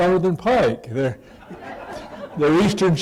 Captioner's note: laughter